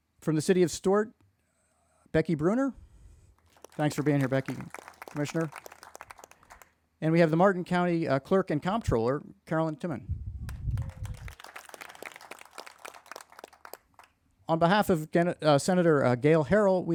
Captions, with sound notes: From the city of Stuart, Becky Bruner. Thanks for being here, Becky. Commissioner. And we have the Martin County clerk and comptroller, Carolyn Timmann. (crowd applauding) On behalf of Senator Gayle Harrell,